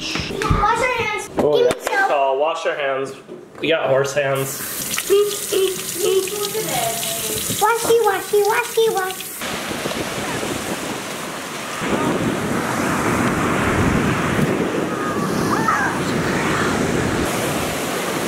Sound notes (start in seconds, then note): 4.3 water running; 9.6 waves rushing; 11.8 wind blowing